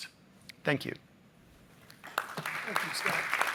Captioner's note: applause